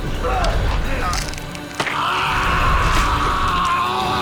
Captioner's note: crunching; screams